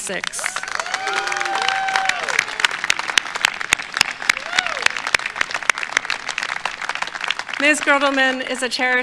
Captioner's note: applause